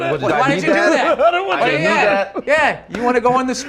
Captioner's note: laughing